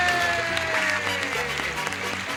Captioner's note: applause